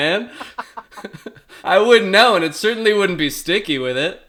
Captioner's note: laughing; laughs